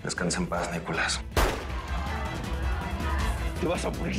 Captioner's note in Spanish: Disparo; Gritos